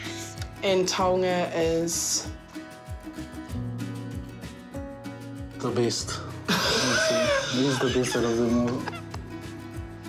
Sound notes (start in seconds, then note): 6.5 laughs